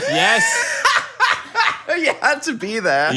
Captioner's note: laughing